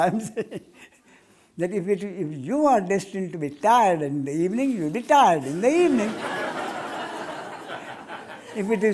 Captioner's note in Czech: smích